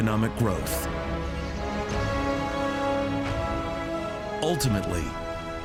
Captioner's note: birds chirping